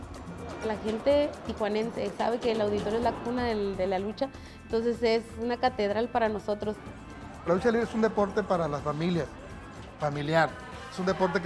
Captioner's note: Rey Misterio speaking Spanish; speaking Spanish